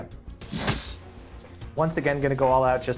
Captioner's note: Brennan exhales forcefully; sword thudding